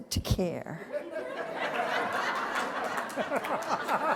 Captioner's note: laughter